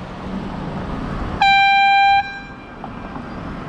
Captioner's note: airhorn